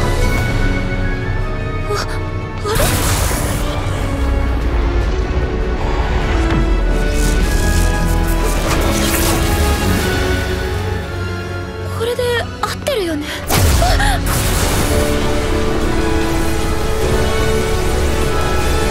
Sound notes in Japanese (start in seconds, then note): 14.3 雷鳴